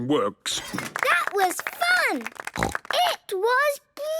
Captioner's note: applause